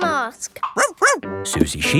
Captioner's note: barks